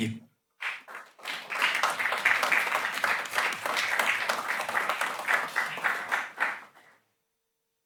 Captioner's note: applause